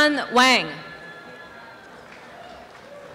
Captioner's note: applause and cheering